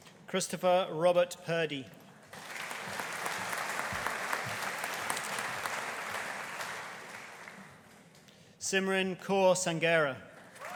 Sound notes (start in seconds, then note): 2.3 audience applauding